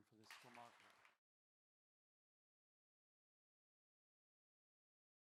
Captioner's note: audience applauds